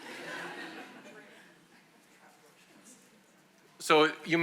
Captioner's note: attendees laugh